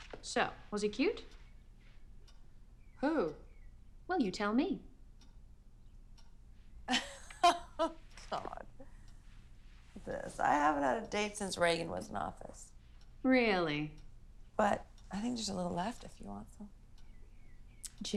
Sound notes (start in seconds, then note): 6.9 laughs